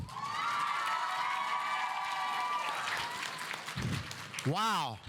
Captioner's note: audience cheering; audience applauding